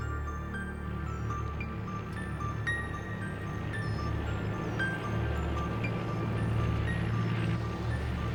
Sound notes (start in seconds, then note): 3.0 truck rumbling